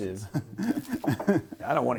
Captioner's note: laughing